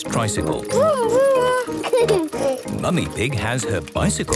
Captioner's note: giggles